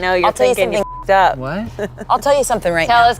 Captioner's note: beep